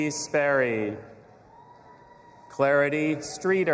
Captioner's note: audience applauding and cheering